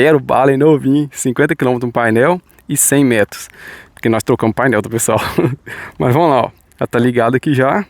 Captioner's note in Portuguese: risadas